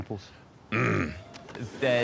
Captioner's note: grunting